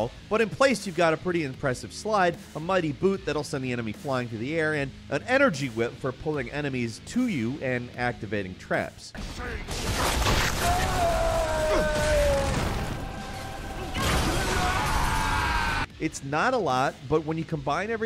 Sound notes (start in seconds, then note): 9.2 upbeat music; 9.2 gun fighting